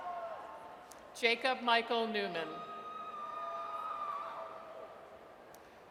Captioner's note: audience cheers